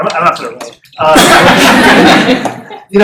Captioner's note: laughter